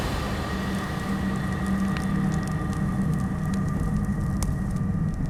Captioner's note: fire crackling